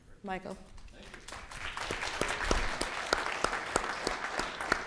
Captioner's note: audience applauding